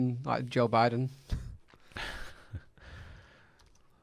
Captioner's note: laughing